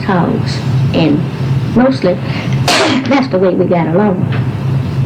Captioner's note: cough